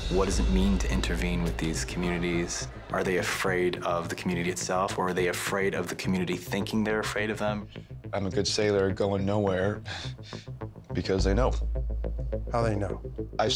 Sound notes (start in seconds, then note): 9.5 laughs